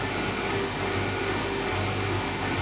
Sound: machine noise

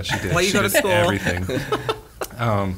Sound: laughing

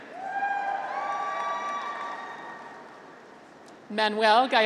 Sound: graduates cheer

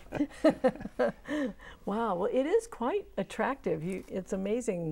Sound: laughing

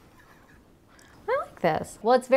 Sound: laughing

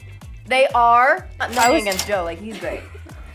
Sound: cash register

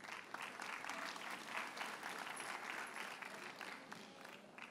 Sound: audience applauds

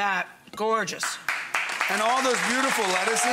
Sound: audience applauding

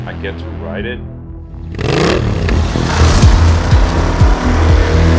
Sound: motorcycle revving

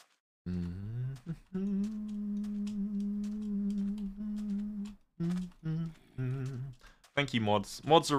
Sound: hums

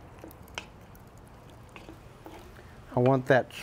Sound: spoon clacking

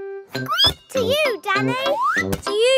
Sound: squeaks

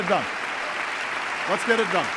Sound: applause

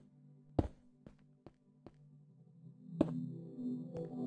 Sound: please Enjoy Some Silence

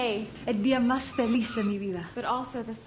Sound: speaking Spanish

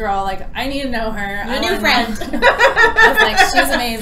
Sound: laughter

